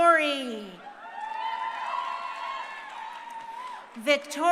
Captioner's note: crowd cheering